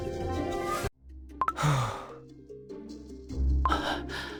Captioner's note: sighs